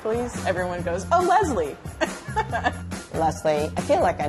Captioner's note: laughs